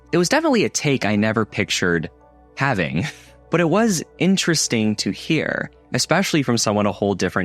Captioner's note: laugh